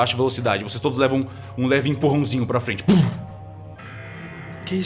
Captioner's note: puft